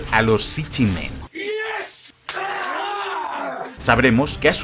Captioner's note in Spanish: sonidos masculinos de celebración